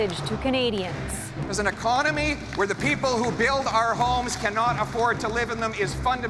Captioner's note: cheering